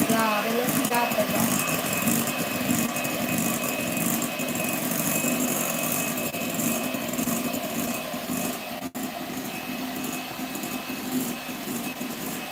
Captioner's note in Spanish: ruido de batidora